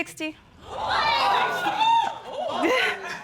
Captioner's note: audience exclaiming